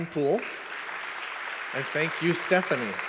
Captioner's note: audience claps